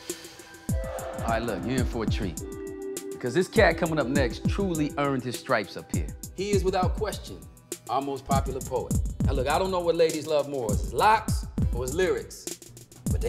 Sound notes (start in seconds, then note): none